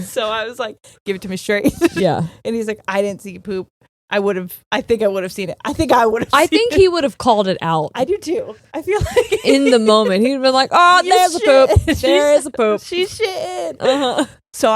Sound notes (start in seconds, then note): 9.0 laughing